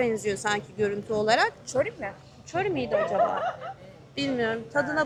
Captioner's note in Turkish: kahkaha